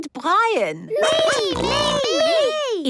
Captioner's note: snorting